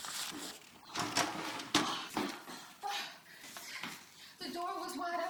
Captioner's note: Barbara panting